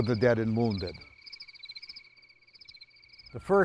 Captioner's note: insects chirp